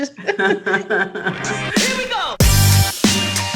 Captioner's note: both laugh